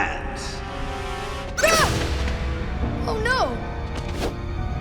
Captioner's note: shrieking